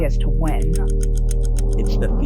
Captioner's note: clock ticks